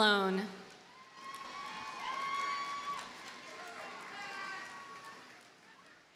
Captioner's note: audience cheers and applauds